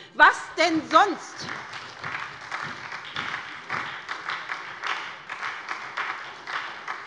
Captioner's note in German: Beifall bei der SPD